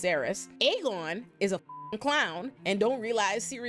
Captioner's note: beep